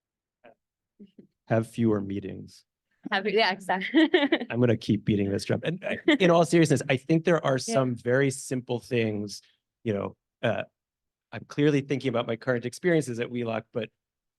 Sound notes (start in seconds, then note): 3.8 laugh